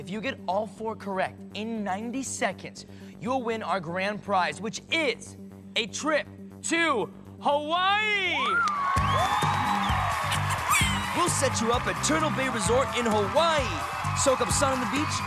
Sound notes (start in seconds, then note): 8.3 cheers and applause